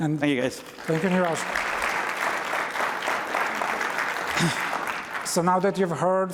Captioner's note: applause